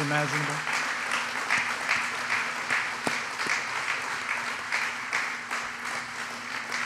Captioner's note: applause